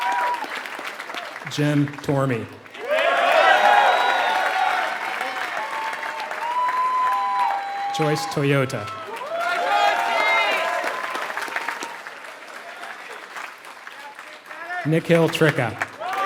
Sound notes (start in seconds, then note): 0.7 applause